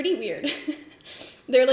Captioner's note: laughs